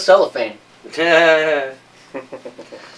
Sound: laughter

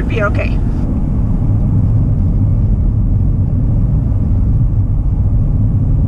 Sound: sound of car driving

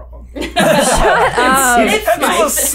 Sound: laughter

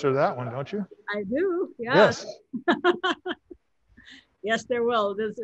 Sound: laughs

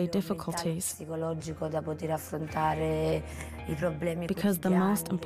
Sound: speaking in Italian

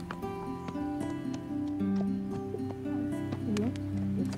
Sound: hooves clomping

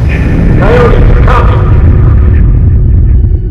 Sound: echoing

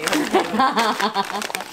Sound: laughing

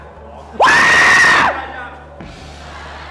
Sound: screaming

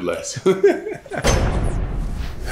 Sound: laughing

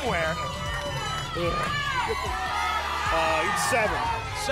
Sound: audience shouting numbers

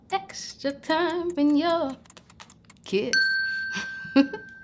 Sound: lips smacking; chiming ding; giggling

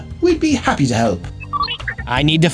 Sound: R2-D2 noises

